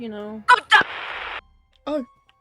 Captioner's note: static